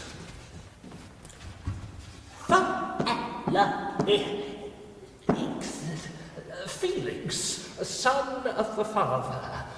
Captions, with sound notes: (Creature stammering) Felix. Son of the father.